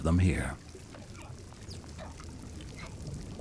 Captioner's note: whales calling